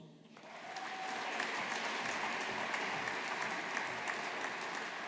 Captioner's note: audience applauding